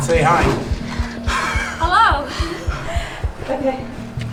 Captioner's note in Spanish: ríe